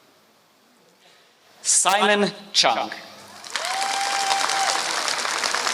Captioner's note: applause